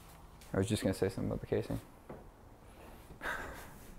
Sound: laughs

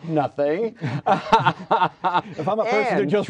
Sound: laughter

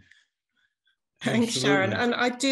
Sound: laughs

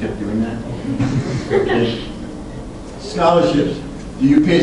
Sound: class laughs

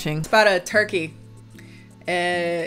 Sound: none

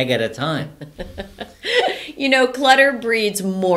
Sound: laughs

